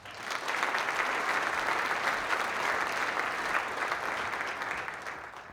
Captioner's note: applause